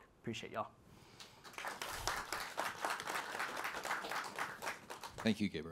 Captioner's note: applause